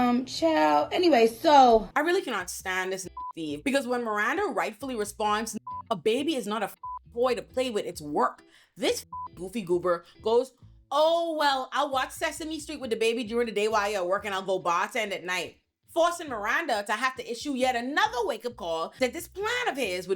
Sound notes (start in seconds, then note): 3.1 beep; 5.5 beep; 9.0 beep